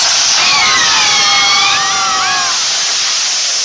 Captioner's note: all screaming